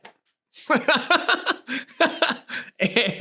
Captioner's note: laughs